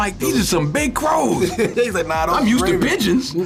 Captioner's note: laughs